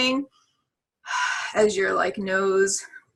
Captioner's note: exhaling